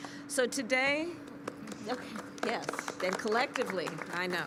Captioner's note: applause